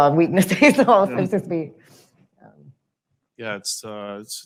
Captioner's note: laughs